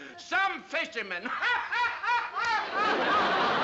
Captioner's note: mocking laughter